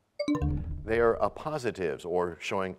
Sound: bell chimes, time expires

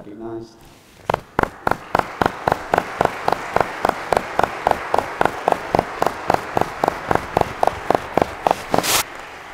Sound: applause

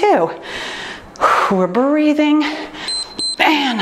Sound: timer beeps

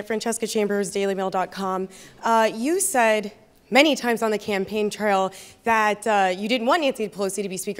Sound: none

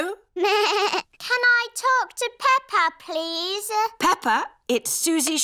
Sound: bleats

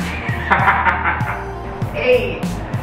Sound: laughs

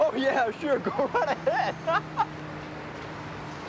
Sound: laughing

